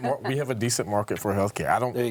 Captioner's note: group laughing